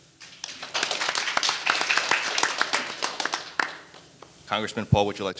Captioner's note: audience applauding